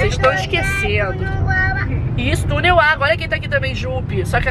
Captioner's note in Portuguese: balbuciando